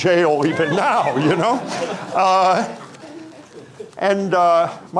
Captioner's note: audience laughing